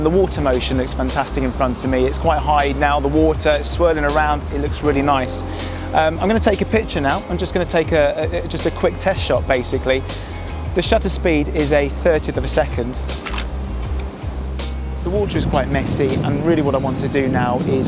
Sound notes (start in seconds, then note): 13.2 camera shutter